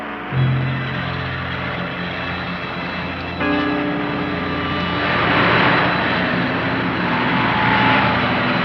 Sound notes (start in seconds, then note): 4.9 vehicles whirring